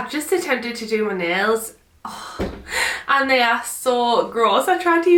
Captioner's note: sighing